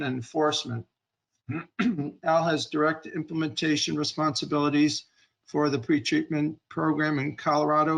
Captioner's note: clearing throat